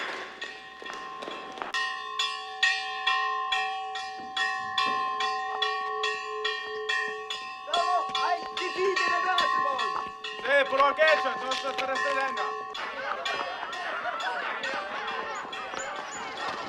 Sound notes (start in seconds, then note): 7.5 man speaking illyrian language; 10.6 man shouting in illyrian language; 11.5 crowd laughing